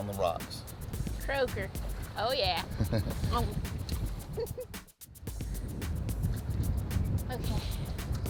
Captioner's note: giggle